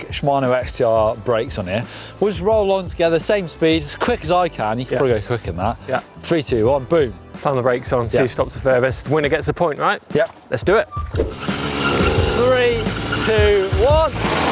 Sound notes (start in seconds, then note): 11.3 motor running; 14.2 tires skidding